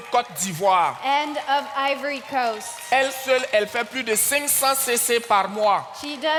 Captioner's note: continues in French; continues in French